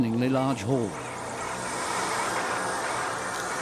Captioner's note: locusts hissing